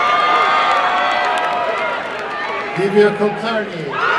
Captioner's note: applause and cheering